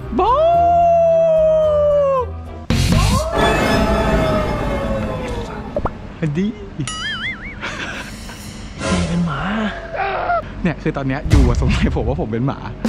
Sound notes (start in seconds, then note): 0.2 howling; 3.2 tense melody plays; 7.6 laughs